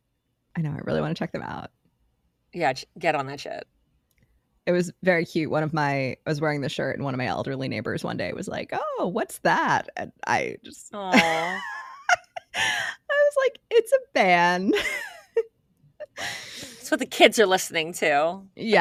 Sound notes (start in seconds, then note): 11.1 laughs